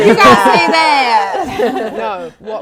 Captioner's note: laughing